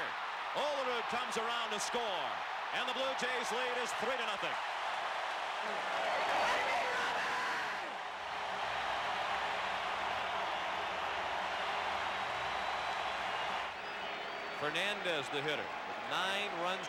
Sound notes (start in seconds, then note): 3.2 applause; 4.4 cheering and Applause